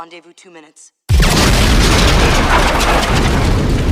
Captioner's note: explosion